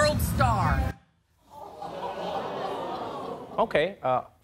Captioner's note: audience gasping